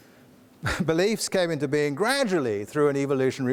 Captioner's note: scoffs